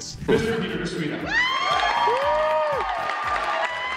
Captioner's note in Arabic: هتافات الجمهور